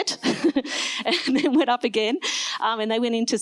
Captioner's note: laughs